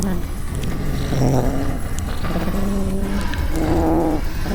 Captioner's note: creature growling